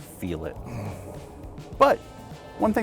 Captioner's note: grunts